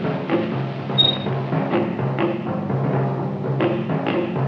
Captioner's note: gate squeaks